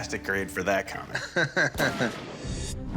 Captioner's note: laughs; bullet fires